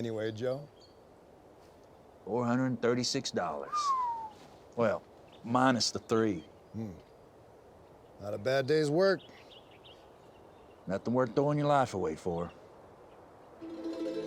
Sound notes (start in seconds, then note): 0.3 laughs; 3.6 whistles